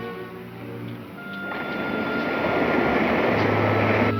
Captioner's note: whirring